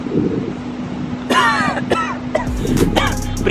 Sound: coughs violently

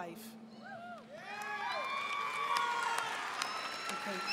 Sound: audience cheering

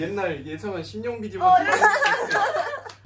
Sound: laughing

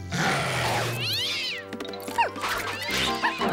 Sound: growls; screeches

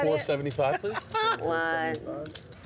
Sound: laughing

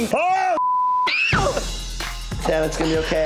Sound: beep; Tana screams

